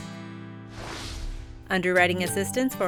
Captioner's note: air whooshing